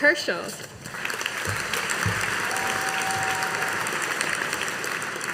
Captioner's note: audience applauding